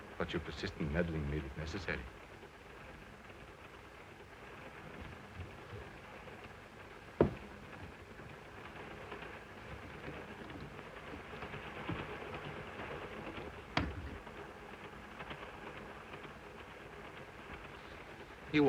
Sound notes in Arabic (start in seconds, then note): 4.0 صوت خشخشة القطار; 13.7 يغلق الباب; 15.1 صوت خشخشة القطار